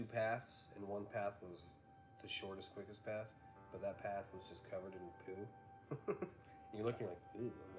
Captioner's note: laughs